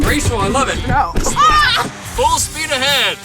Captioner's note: yells